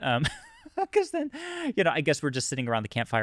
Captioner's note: laughs